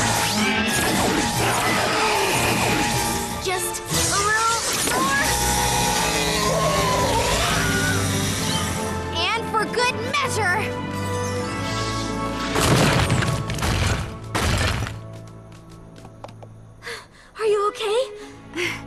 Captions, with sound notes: (zaps and screeches) Just a little more. (roar) And for good measure. (crash) Are you OK?